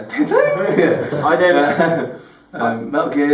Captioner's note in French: rires